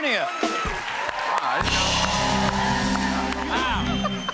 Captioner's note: cheers and applause